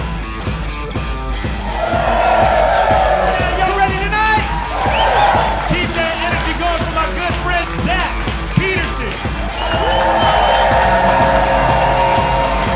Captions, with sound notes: (audience cheering) - Y'all ready tonight? (audience cheering) Keep that energy going for my good friend, Zach Peterson. (audience cheering)